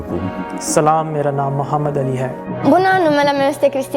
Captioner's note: speaking in foreign language